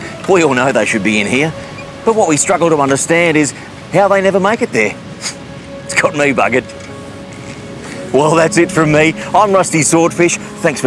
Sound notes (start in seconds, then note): 0.0 metal clanging; 5.3 scoffs